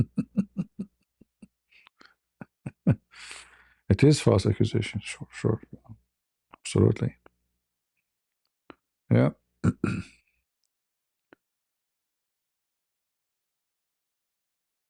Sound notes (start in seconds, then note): 0.0 ketawa; 9.6 berdehem dan batuk